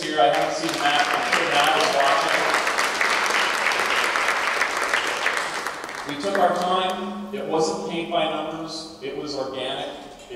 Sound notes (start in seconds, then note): 3.3 applause